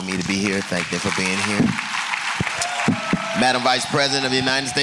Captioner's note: applause